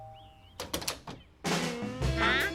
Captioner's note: doorbell dings; door opens